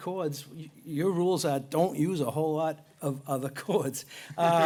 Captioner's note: laughter